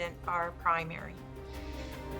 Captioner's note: inhales